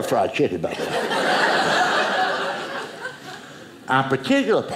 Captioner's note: audience laughing